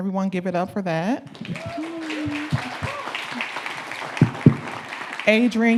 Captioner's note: audience clapping